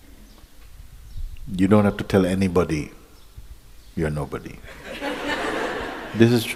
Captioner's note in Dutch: gelach